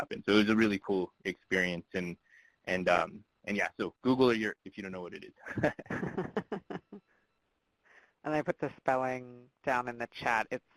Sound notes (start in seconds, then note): 5.4 laughing